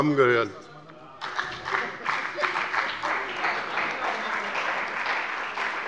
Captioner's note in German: Beifall bei dem BÜNDNIS 90/DIE GRÜNEN und der CDU